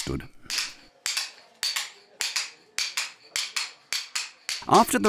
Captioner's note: chisels tapping